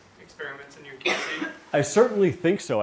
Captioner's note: cough in audience